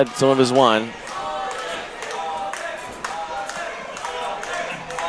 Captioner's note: crowd cheering